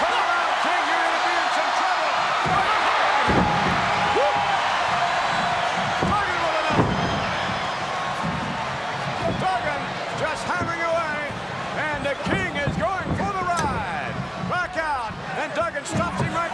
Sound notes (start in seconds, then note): 2.8 crowd cheers